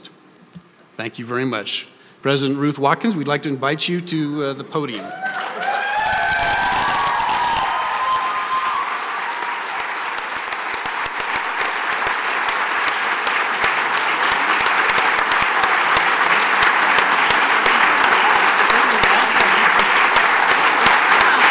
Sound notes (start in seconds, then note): 5.8 applause